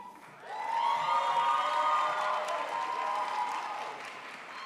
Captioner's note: crowd applauds